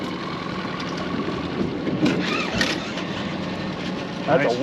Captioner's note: reel cranking